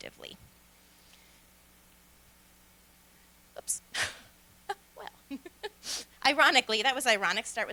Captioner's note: laughter